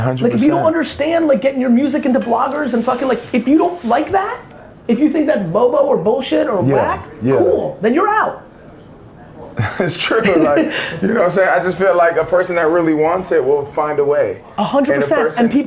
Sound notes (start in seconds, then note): 9.5 laughs